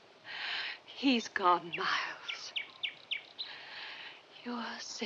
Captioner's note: birds chirping